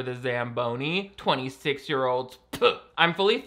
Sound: spits

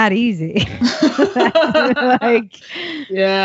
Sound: laughing

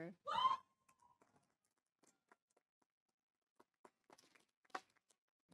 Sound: audience member cheering

